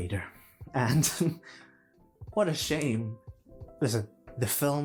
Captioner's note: giggle